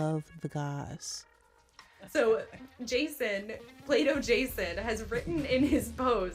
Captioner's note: soundbite of podcast, "normal gossip"